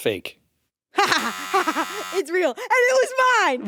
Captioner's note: chuckles